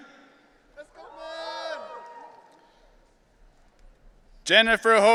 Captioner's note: audience cheering